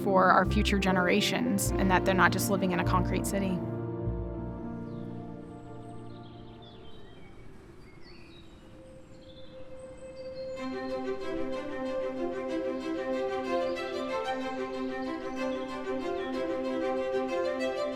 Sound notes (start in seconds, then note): 5.2 forest nature sounds play; 10.4 peppy, cheerful music plays